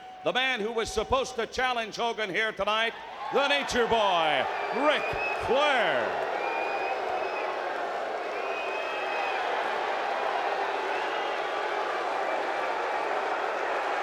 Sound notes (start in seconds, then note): 6.4 crowd booing